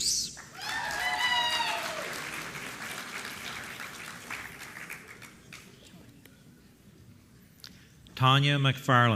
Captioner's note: applause